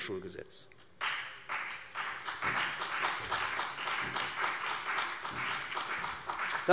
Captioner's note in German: Beifall CDU und vereinzelt BÜNDNIS 90/DIE GRÜNEN